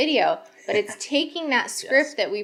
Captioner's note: laughing